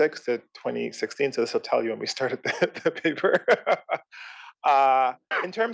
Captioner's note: laugh